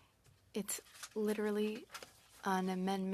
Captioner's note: speaking French